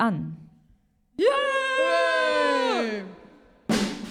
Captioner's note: cheering